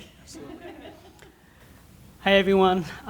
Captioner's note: laughter